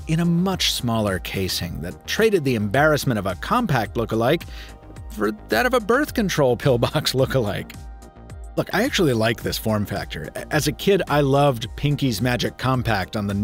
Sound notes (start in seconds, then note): 6.8 chuckles